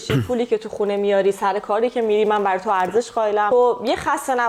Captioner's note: clears throat